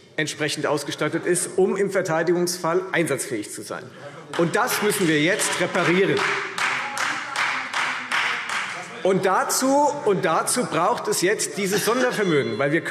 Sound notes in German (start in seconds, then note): 5.3 Beifall Freie Demokraten - Unruhe - Glockenzeichen